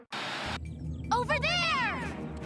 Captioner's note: echoing